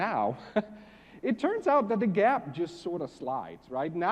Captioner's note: laugh